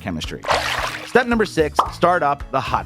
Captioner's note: water sloshing